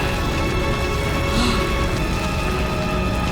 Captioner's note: gasping